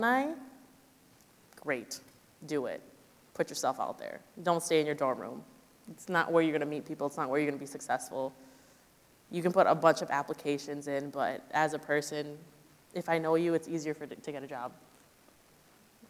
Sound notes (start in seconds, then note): none